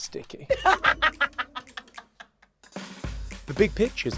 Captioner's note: London laughs